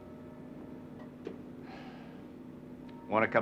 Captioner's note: sighs